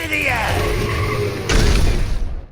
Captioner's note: tyre screech, motor; explosion